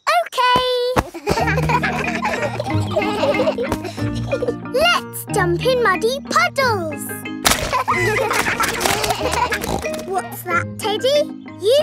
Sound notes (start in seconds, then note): 1.0 kids laughing; 7.5 kids laughing; 9.0 snorts